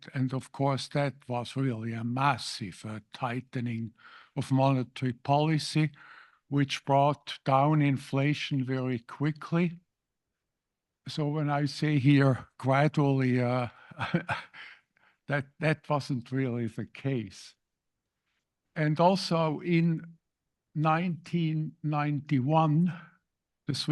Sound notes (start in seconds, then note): 13.8 laugh